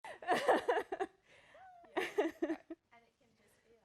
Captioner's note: laughs